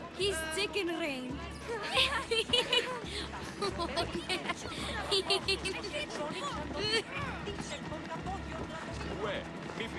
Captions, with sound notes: He’s Chicken Rain! (laughs) (laughing)